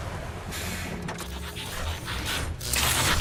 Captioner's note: autobots transforming